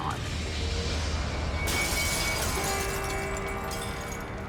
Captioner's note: glass shattering